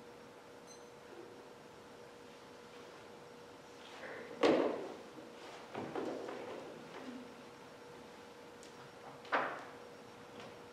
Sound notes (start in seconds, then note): 0.6 timer beep